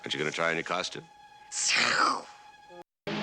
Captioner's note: hisses